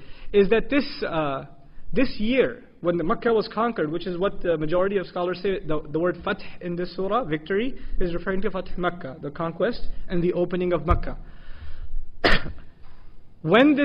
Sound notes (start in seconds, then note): 12.2 ehm... clearing throats